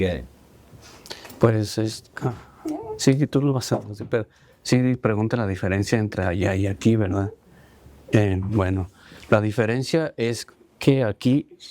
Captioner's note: speaking spanish